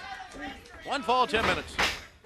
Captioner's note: crowd chatter